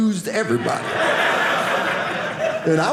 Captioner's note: audience laughing